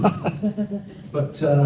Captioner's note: laughter